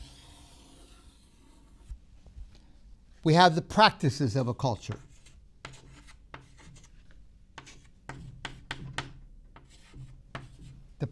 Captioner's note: chalk sounds